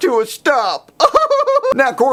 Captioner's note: laughs